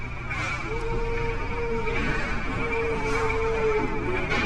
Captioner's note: evp moaning